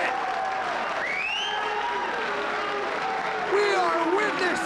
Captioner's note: crowd cheering